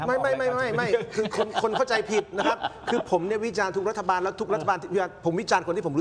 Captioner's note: laughs